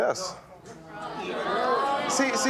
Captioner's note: audience shouting